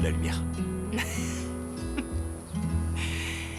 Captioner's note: laughing